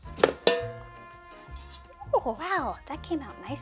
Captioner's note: pan clanking